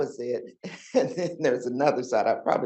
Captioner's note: chuckles